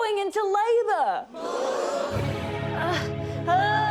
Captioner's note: gasping; groans